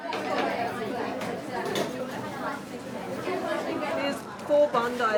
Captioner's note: people chatter